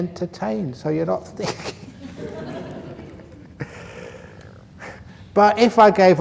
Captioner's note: laughter